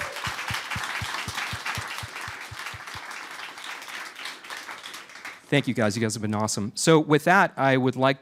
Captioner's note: cheers and applause